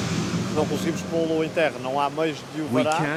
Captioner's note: speaking in foreign language